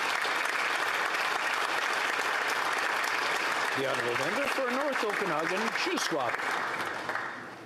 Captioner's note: applause